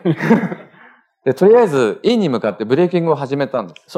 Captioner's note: speaking japanese